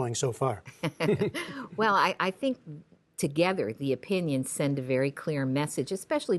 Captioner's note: laughter